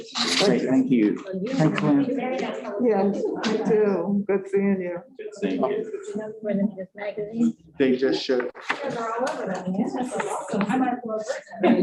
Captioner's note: indistinct overlapping conversations